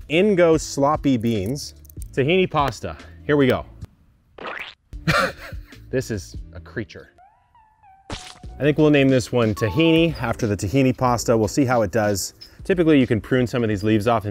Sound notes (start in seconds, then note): 4.4 food plops; 5.0 chuckles